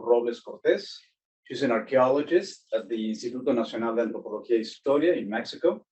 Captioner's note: speaking foreign language